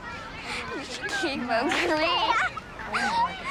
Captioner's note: laughing